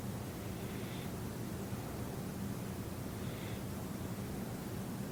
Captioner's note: breathing noisily